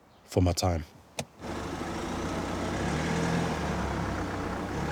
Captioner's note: car engine revving